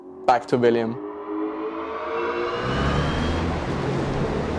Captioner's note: engine revving